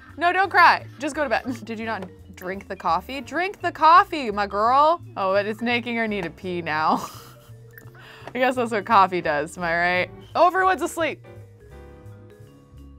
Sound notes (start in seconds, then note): 6.9 laughs